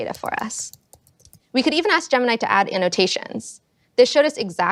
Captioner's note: keyboard clicking